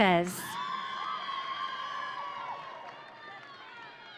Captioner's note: audience cheering